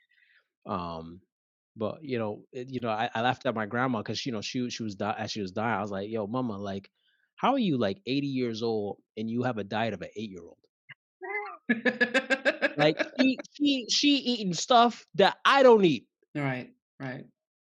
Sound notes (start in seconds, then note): 11.7 laugh